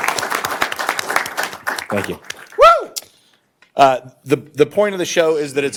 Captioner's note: applause